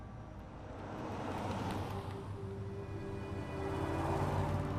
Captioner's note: traffic humming